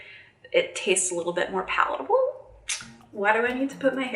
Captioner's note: tongue clicking